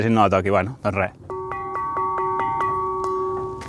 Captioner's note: rings the bell